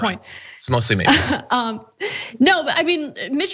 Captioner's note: laugh